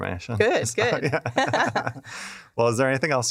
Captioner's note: laughter